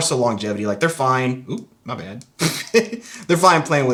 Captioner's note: laughs